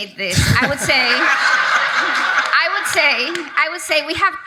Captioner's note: audience laughs